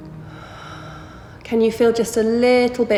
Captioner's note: heavy breathing